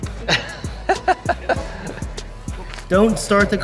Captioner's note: laughs